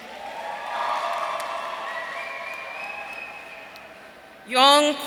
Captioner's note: audience cheering